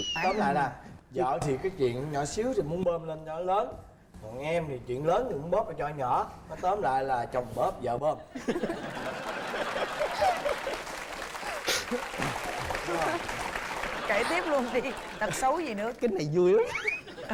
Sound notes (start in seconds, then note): 8.4 laugh; 8.8 applause